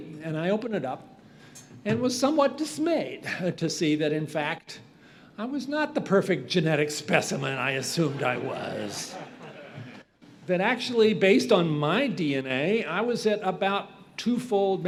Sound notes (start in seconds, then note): 7.7 audience laughs